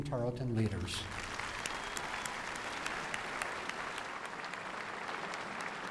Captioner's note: applause